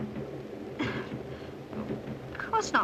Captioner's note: Gwen chuckles nervously